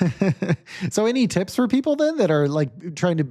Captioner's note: laughs